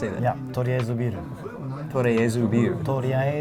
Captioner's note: speaks foreign language